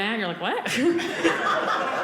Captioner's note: audience laughing